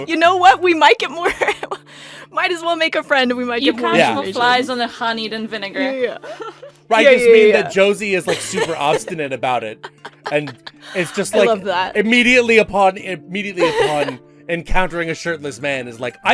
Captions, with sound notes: "you know what, we might get more...might as well make a friend, and we might get more information." Yeah. You catch more flies on the honey than vinegar. Yeah yeah yeah. Yeah yeah yeah yeah. Right, I just mean that Josie is super obstinate about it. (Laughing) I love that. And is just like immediately upon, immediately upon encountering a shirtless man, is like,